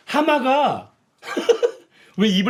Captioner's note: laughing